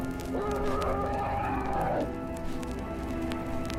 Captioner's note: cheesy monster growl in distance